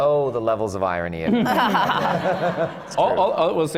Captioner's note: laughter